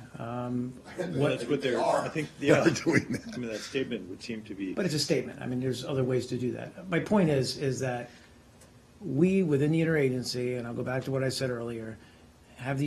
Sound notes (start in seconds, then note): 2.6 laughter